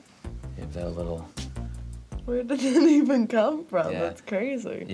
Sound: chuckling

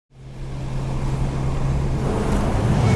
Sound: wind blowing

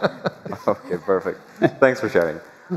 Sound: laughter

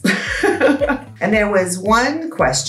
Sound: chuckles

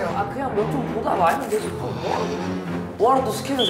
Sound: sigh

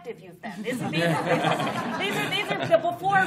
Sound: laughter

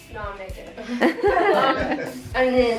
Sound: all laugh

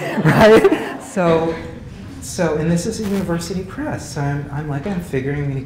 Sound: laugh

